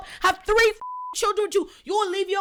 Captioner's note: beep